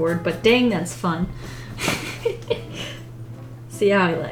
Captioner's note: laughs